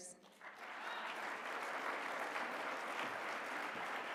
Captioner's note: applause